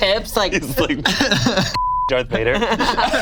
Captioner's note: beep